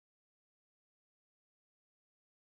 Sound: none

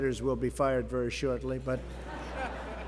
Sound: laughter

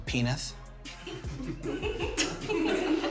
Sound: giggling

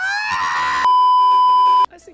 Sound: beeeeeep

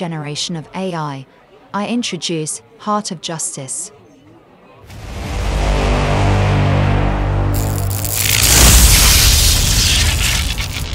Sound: deep tones and electricity crackling

